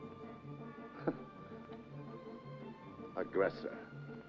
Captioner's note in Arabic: هانيبال يسخر